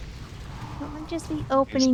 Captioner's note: laughing